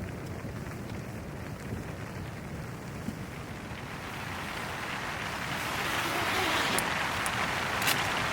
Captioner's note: applause